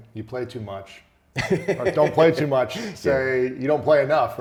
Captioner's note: laughs